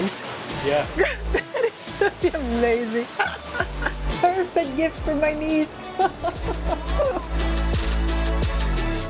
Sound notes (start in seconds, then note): 5.8 laughs